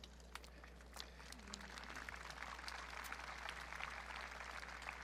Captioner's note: audience clapping